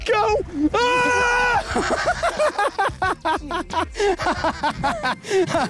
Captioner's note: laughing